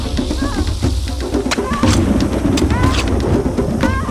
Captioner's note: grunting